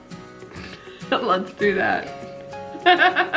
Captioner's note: laughs